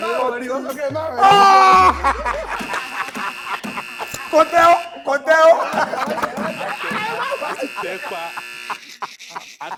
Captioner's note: buzzer pressed; everyone laughs